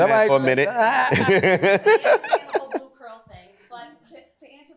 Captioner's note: laughter